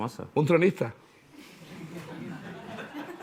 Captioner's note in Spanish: Risas